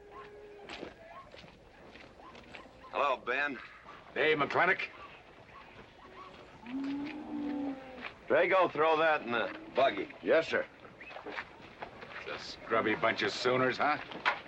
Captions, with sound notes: Hello, Ben. - Hey, McLintock. (cattle mooing) - Drago, throw that in the buggy. - Yes, sir. - That's a scrubby bunch of sooners, huh?